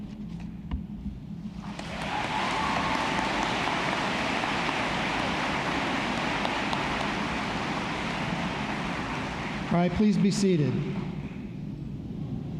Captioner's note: applause